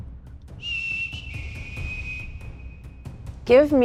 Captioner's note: whistling